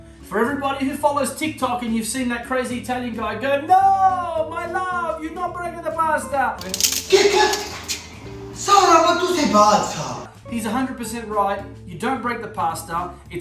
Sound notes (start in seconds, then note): 7.0 woman breaking pasta; 8.9 man speaking Italian